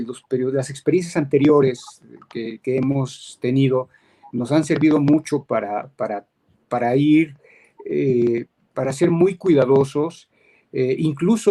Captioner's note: speaking in Spanish